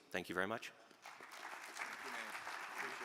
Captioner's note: audience applaud